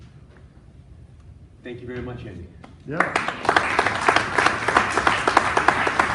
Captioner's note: applause